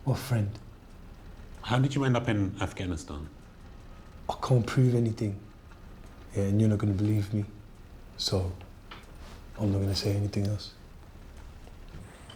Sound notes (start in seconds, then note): none